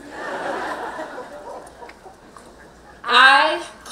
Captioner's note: laughing